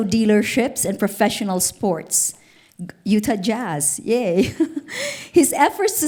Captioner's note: laughs